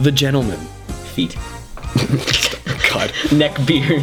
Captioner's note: both laughing; while laughing